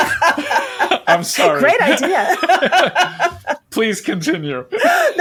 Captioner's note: laughs